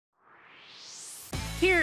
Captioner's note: swoosh